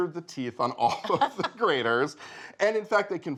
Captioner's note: laughing